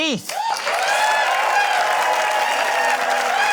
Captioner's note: cheering, applause